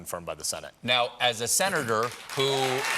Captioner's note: applause